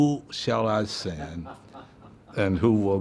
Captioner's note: laughing